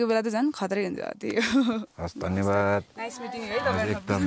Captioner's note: laughter